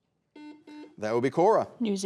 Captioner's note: buzzer beeping